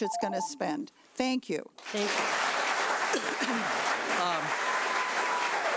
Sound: audience applauding

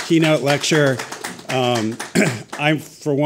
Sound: audience applauding

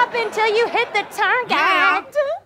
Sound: audience laughter; sing song

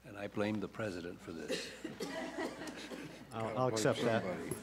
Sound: laughter

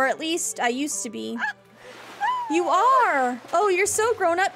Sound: Ariel Squeals in Delight

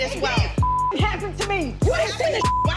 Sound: beep

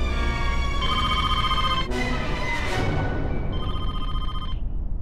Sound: phone rings

